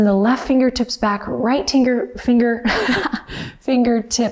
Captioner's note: laughing